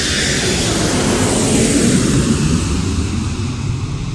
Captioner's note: airplane landing